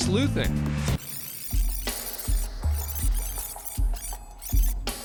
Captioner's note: rewind sounds